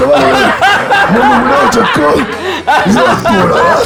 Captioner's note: laughs